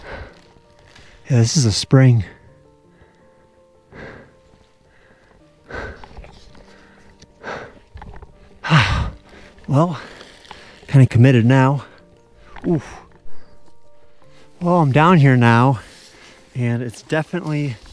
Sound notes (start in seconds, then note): 2.8 breathing